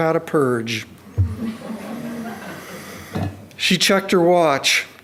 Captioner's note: audience tittering